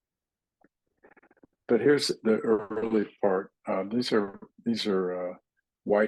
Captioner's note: indistinct chatting